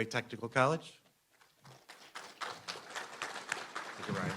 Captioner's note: applause